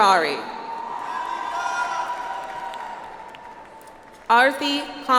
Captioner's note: audience applauds